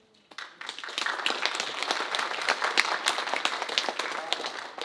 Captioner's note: audience applauding